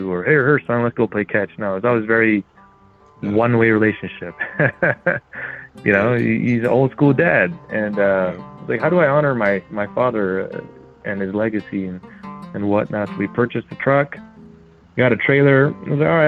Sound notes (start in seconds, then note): 3.2 laughs